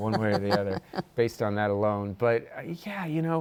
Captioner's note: laughs